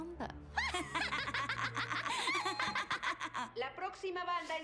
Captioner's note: giggles